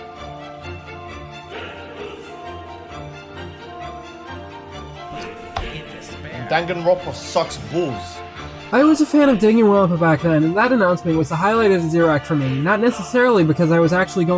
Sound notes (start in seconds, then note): 5.2 slap